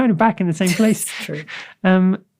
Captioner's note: laughs